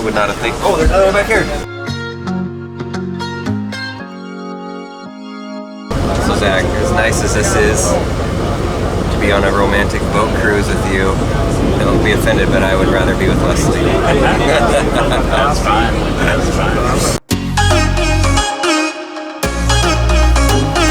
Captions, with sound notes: I would not of think, oh, there's another one back here. So, Zach, as nice as this is, to be on a romantic boat cruise with you, don't be offended, but I would rather be with Leslie. (both laugh) - I'm fine. (upbeat music)